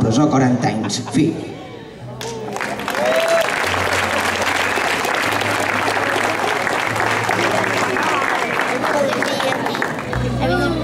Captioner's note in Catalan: Aplaudiments